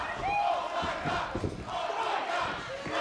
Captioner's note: fans chanting